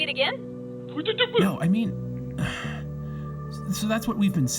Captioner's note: sighs